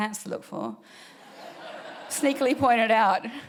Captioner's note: audience laughing